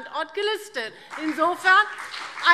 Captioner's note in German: Beifall BÜNDNIS 90/DIE GRÜNEN